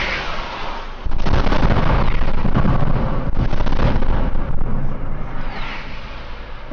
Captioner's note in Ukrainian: вибух